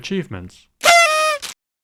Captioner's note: party horn